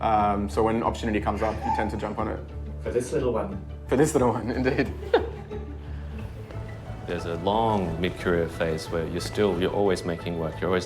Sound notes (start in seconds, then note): 4.6 laughing